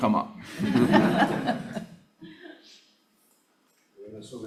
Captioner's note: audience laughing